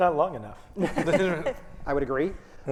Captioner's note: all chuckling